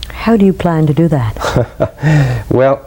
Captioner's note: laughs